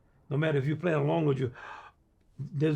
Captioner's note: inhales sharply